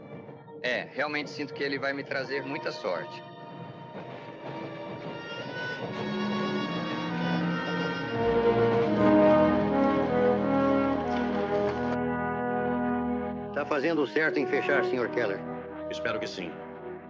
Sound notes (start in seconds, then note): 6.0 train clacking